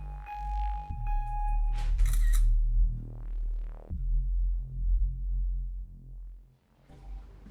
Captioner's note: laptop beeps three times; laptop produces camera shutter click sound effect